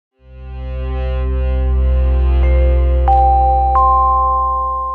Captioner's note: gently chiming bells